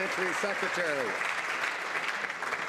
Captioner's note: some Applause